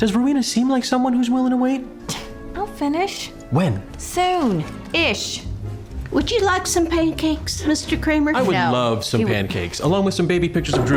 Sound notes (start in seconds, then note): 1.9 scoffs